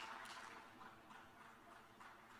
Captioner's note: applause